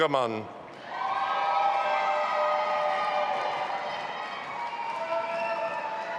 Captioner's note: audience applauding and cheering